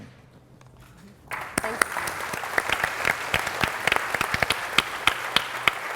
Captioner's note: applause